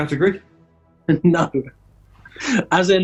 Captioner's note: chuckling